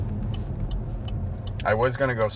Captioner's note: car turn signal clicking